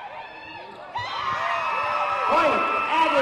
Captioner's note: cheering